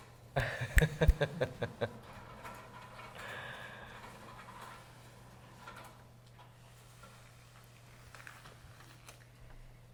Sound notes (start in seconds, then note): 0.4 laughs